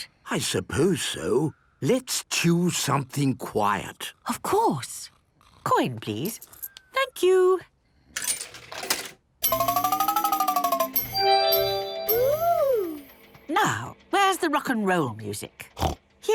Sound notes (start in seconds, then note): 9.4 beeps and chimes